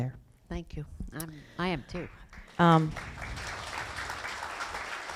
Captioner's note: applause